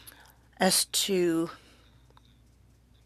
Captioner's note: speaking French